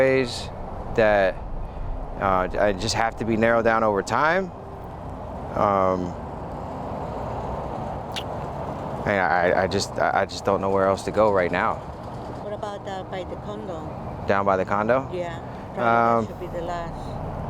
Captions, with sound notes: that just have to be narrowed down over time. (gentle music) (traffic droning) I just don't know where else to go right now. - What about by the condo? - Down by the condo? - Yeah, probably that should be the last.